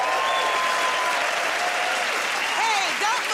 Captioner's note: cheers and applause